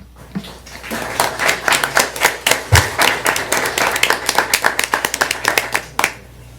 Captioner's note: applause